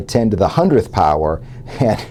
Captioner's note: laugh